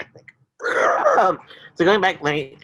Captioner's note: chuckles